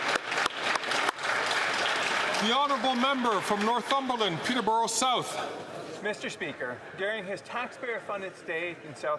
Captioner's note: some Applause